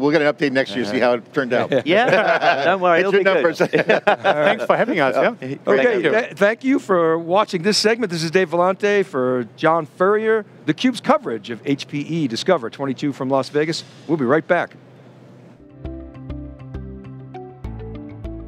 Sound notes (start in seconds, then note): 3.7 laughs; 15.6 gentle music